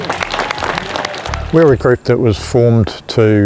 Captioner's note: applause